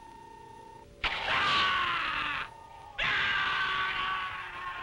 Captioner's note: watchman screaming